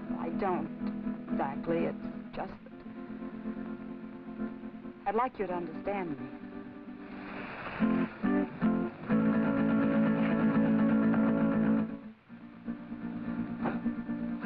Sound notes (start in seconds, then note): 6.9 brush rustling; 12.6 suspenseful music